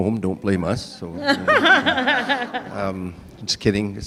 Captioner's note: audience laughing